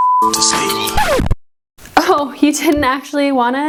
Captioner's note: record scratching